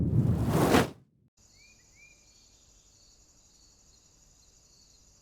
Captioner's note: crickets chirping